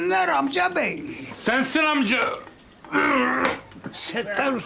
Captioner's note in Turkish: Öksürme sesi